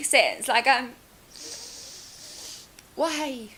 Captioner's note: breathes through her nose to express annoyance